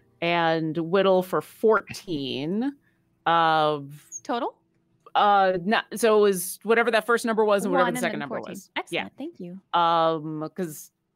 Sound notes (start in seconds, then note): none